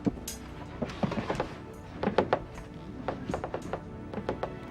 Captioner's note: box clattering